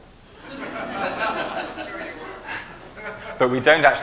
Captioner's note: laughing